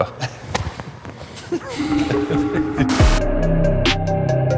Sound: all laughing; rhythmic instrumental music

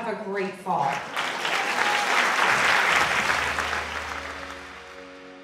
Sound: audience clapping

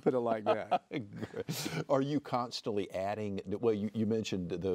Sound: laughs

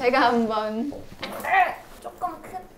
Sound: argh

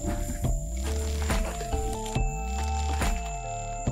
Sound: loud footsteps

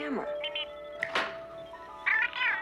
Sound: Steve Trevor snaps his Fingers

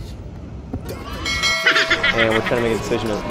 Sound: bells chiming and children cheering; hysterical laugh

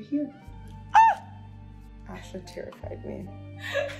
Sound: yells in mock fear; giggling

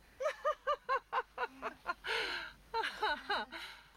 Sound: nervous laughter

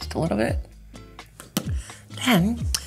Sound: pops lips

